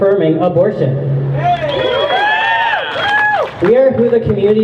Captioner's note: crowd cheers